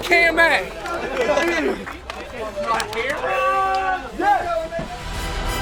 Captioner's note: cheering; triumphant music